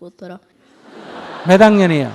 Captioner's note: audience laughter